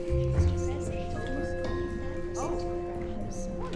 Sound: joyful music; murmuring

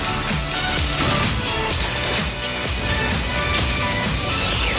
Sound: guns firing; car exploding; lasers firing

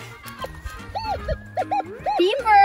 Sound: metal detector beeping

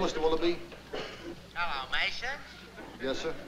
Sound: on phone

